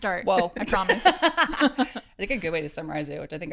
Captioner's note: laughs